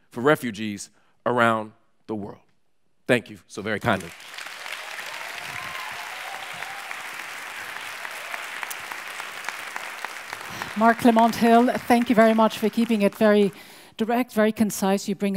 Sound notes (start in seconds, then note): 4.3 audience applauds